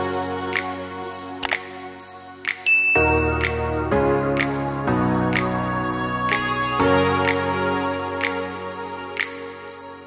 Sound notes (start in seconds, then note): 0.1 pop music plays; 1.4 click; 2.6 bell chime; 5.9 pop music plays